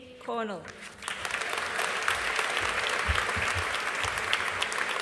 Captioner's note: audience applauding